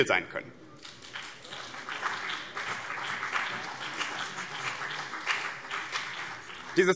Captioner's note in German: Beifall BÜNDNIS 90/DIE GRÜNEN und vereinzelt CDU